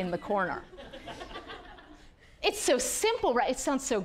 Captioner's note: audience laughing